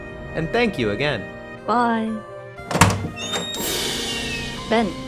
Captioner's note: door opens and janus leaves